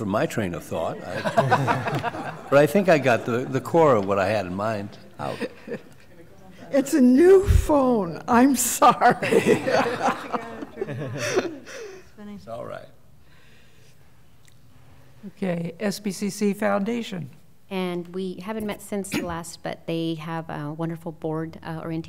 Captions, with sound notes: for my train of thought. [Laughter] But, I think I got to the core of what I had in mind.. ** It's a new phone. I'm sorry. [Laughter] ** It's alright. ** Okay, SBCC Foundation. And, we haven't met since the last, but they have a